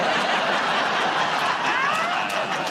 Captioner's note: laughter